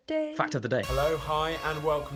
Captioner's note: male Voice